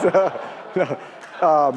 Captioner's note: laugh